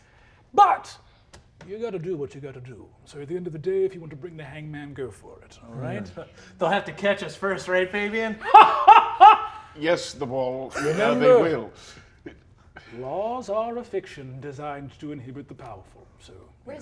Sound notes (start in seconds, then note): 8.4 Brennan laughs